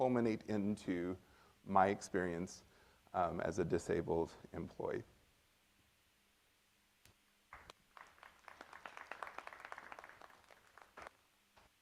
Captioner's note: applause from the audience